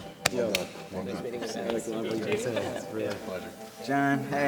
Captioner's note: participants conversing